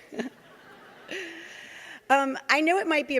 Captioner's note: audience laughing